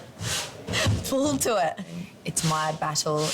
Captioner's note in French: rigole